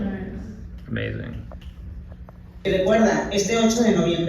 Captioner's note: Spanish speaking